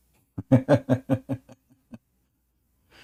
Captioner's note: Ketawa